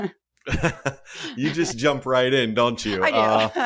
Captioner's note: laugh